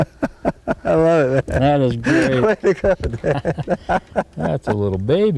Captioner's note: laughter